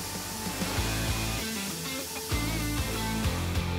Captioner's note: water jets hissing; rock music